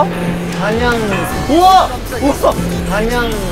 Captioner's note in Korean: 덜컹